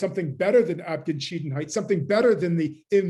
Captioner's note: german